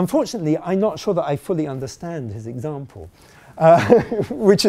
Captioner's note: laughing